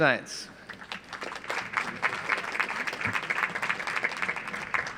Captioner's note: audience applauds